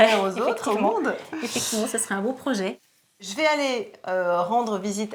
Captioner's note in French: rires